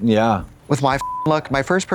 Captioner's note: beep